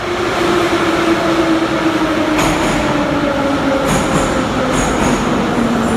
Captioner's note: arrival of train at the station